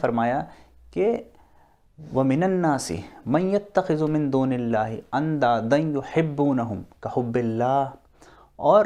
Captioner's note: Quran being quoted in Arabic